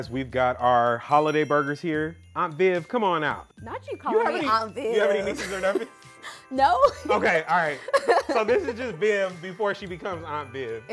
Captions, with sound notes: We've got our holiday burgers here. Aunt Viv, come on out. - Not you calling me aunt Viv. - Do you have any nieces or nephews? - No. (laughs) - Okay, all right. So this is just Viv before she becomes aunt Viv.